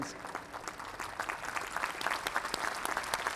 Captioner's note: applause